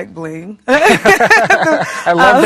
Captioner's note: both laughing